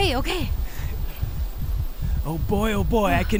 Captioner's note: heart loudly pounding